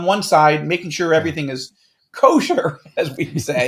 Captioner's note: laughs; laughing